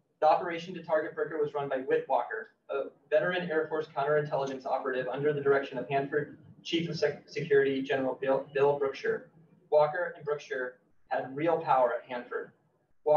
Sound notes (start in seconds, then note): none